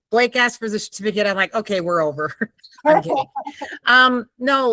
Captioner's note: laughing